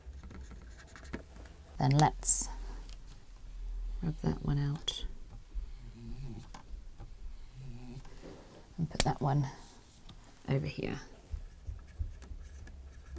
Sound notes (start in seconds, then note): 0.2 pen squeaks; 5.9 whiteboard squeaks; 11.7 pen squeaks